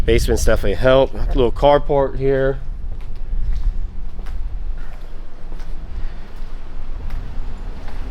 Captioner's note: footsteps